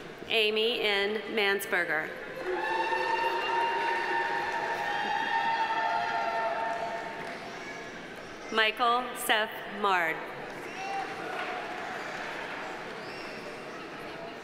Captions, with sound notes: Amy M. Mansperger. (audience applauding) (audience cheering) Michael Seph Mard. (audience applauding)